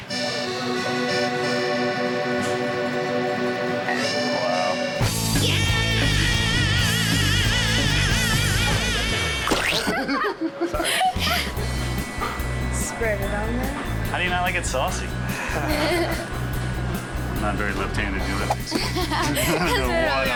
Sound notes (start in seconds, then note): 0.2 italian music; 5.9 rock music; 15.3 both laughing